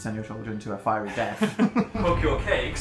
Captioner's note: laugh